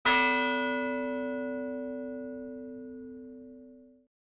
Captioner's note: bells ringing